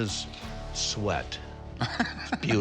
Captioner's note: laughs